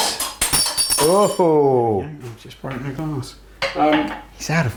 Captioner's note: glass shatters